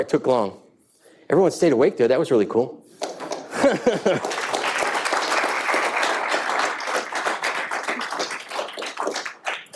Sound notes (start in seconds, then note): 3.7 audience applauding